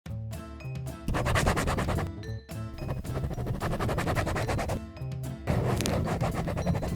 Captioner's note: scribbling on paper